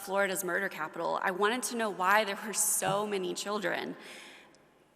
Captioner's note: none